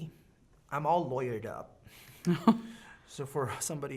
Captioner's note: chuckling